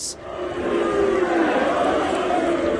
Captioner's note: booing